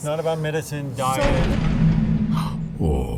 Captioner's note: door clunk